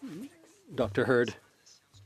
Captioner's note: speaking French